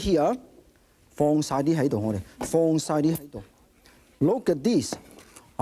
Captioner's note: speaking in foreign language